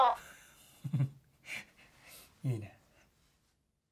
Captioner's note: chuckle